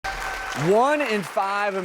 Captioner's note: clapping and cheering